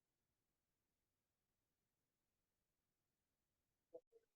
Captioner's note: no audio-break